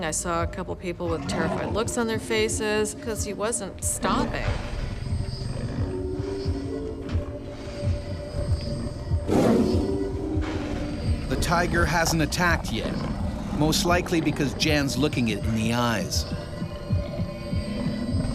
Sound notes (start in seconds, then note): 9.7 tiger growling; 11.9 voiceover